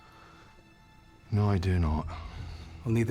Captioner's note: scottish accent